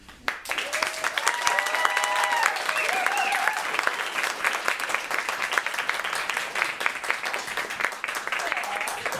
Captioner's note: applause